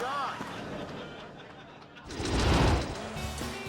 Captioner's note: audience laughing; logo swooshing